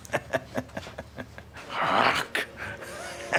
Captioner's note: laughs; grunts; laughs